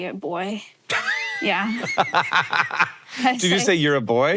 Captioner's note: Hank laughs